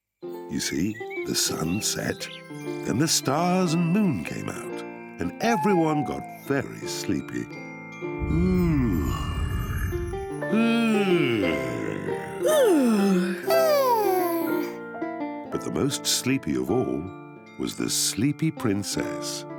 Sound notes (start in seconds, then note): 8.2 yawns; 10.4 all yawn